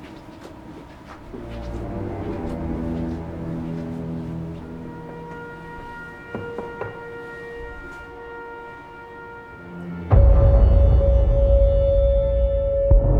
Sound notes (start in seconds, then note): 6.2 knocks; 9.9 eerie ominous music